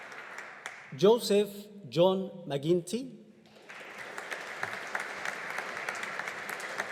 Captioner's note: audience applauding